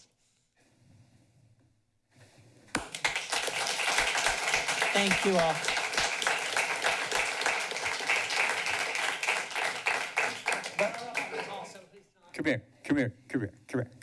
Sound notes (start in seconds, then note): 2.8 applause